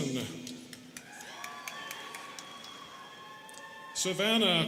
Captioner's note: students cheering